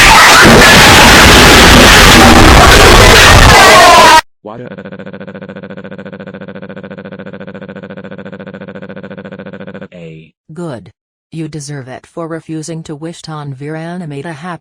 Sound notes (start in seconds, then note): 8.6 crying